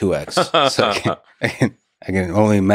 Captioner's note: Elon laughs